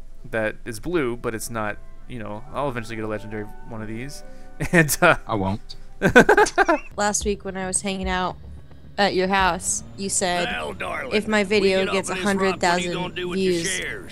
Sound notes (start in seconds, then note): 5.2 voiceover; 6.0 laughs; 7.0 voiceover